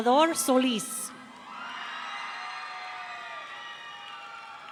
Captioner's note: audience cheering